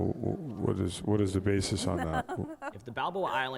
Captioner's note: woman laughs